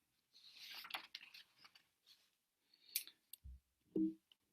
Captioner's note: paper rustling